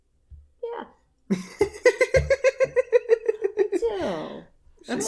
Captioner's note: laughter